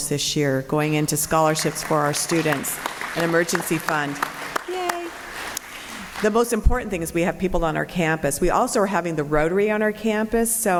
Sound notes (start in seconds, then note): 3.8 applause